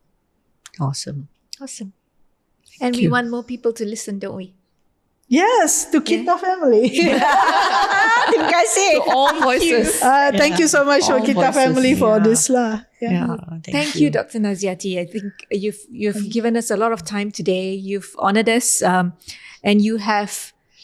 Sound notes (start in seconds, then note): 6.8 podcasters laugh